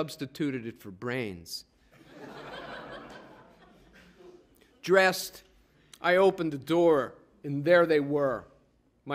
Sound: laughter

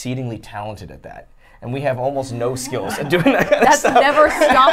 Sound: laughs

